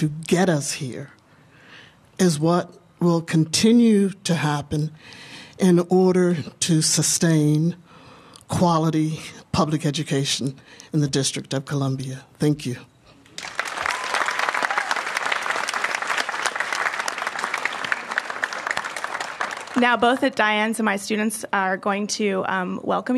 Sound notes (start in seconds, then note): 16.4 applause